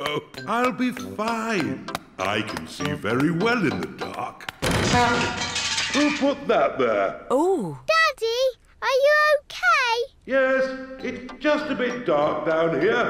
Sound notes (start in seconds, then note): 4.6 crashing